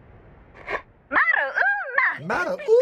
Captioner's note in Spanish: Hablando enfáticamente en japonés